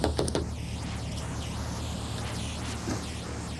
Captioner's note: knocking